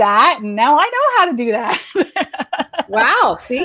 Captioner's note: laughs